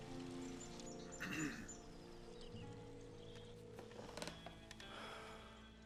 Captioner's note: water splashing softly; Conner clearing throat; Conner sighing